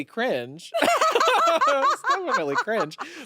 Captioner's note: everyone laughs